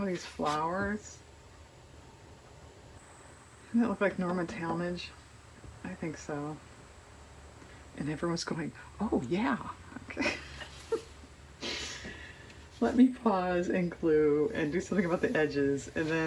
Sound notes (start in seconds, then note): 10.1 laughs